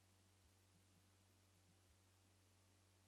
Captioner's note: none